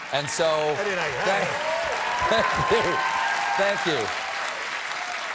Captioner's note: cheers and applause